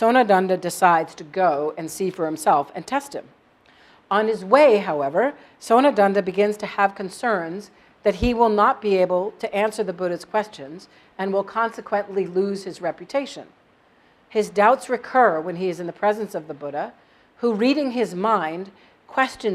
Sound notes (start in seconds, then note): none